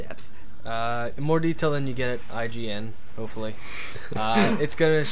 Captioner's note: laughs